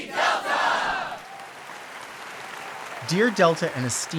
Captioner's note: audience applauding